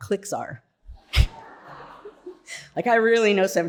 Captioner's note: audience laughing